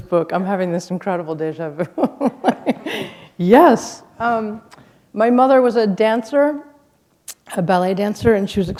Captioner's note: laughter